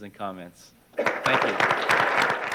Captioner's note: applause